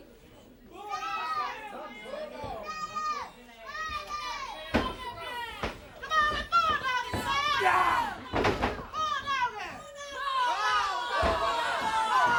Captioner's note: crowd chants